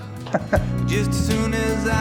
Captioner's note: chuckle